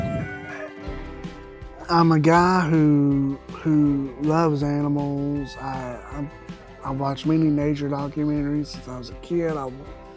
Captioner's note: rooster crows